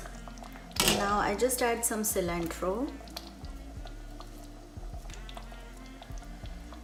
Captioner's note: curry sputters